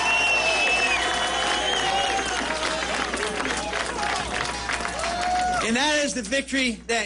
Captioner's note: applause